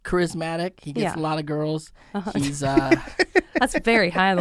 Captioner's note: laughs